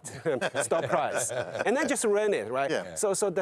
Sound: laughs

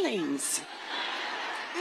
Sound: laughter

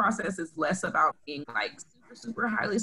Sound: distorted speaking

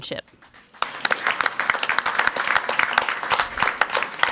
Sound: crowd clapping

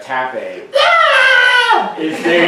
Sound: screaming

